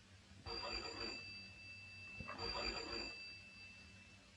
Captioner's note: phone ringing